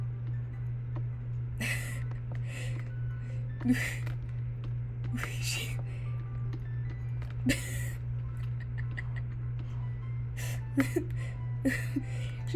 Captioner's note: a whole ~11 seconds of light laughing at goofy lookin' Cupcake